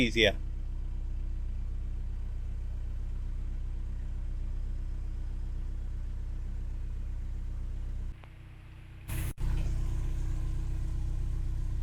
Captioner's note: sound of engine humming